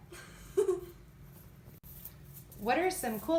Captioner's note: giggling